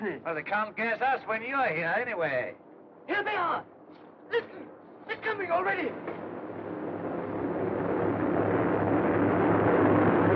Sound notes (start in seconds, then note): 2.2 aircraft Approaching; 4.7 engines Droning